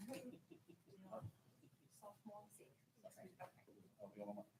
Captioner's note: people chattering